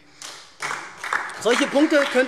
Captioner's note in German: Beifall SPD und DIE LINKE